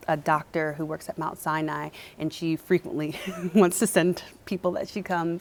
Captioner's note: chuckles